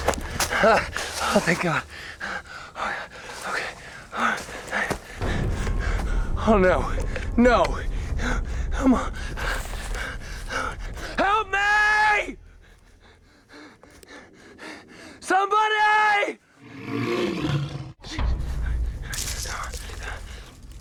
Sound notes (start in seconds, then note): 12.6 panting; 16.6 animal growls